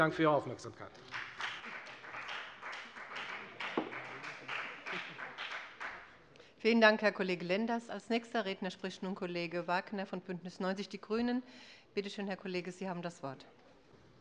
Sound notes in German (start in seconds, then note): 2.9 Beifall bei der FDP